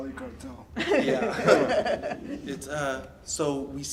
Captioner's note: audience laughs